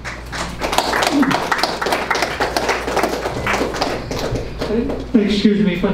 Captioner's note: clapping